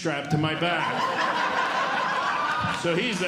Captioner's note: audience Laughing